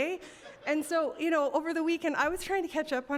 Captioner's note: audience chuckling